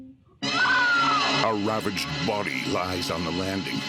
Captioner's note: Barbra screaming